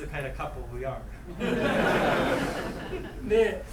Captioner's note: students laughing; speaking in foreign language